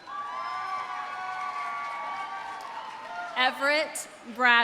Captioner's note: audience applauding; audience cheering